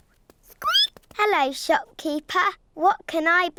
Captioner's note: squeaks